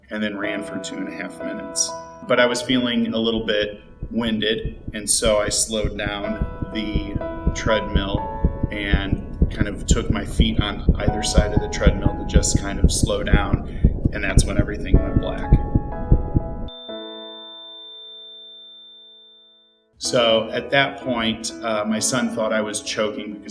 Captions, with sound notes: and then ran for two and a half minutes, but I was feeling a little bit winded, (heart beating) and so, I slowed down the treadmill (heart beating faster) and kind of took my feet on either side of the treadmill to just kind of slow down, and that's when everything went black. (machine sounding a long tone) So, at that point, my son thought I was choking